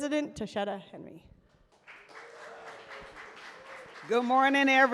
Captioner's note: cheers and applause